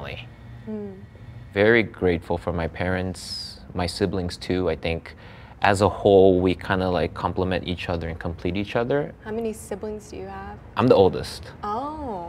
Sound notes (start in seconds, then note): none